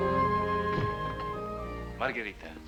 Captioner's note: door closes